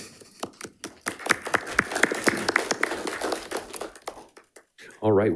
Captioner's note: attendees applauding